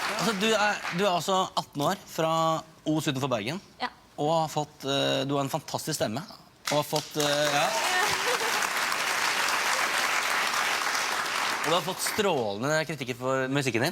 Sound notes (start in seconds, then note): 6.6 applause; 8.0 bashfully laughing